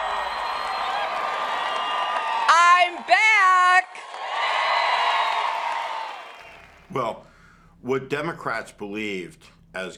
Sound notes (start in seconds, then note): 0.0 audience cheering; 1.9 cheering intensifies; 7.3 continued cheering